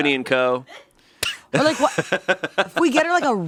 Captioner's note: laughing